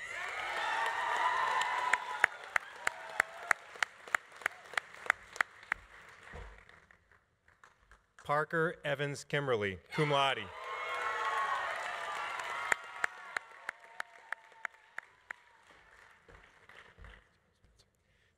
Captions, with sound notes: (audience applauding) (audience cheering) Parker Evans Kimberly, cum laude. (audience applauding) (audience cheering)